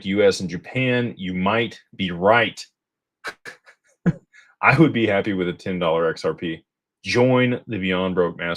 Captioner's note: laughter